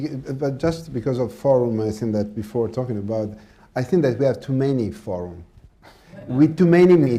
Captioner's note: laughter